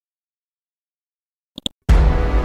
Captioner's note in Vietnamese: click chuột; nhạc kịch tính